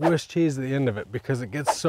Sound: cheese swishes

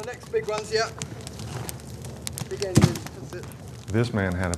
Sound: fire crackling

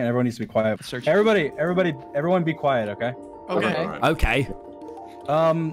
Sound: everyone agreeing

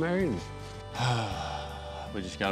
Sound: sighs

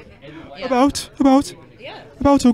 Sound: birmingham Black Country accent

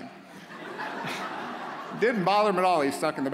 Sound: audience laughs

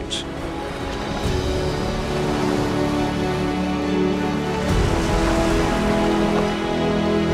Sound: water crashing

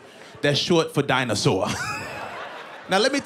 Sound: chuckles

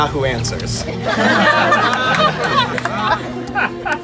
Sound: crowd laughs

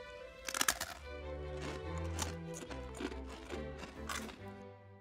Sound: bread cracks; bread crunching

